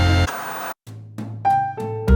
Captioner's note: upbeat horn music; white noise scratching; gentle piano music